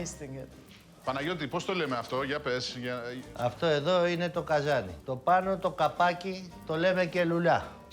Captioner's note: speaking in Greek